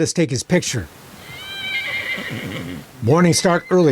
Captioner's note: horses neighing